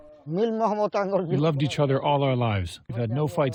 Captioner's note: through translator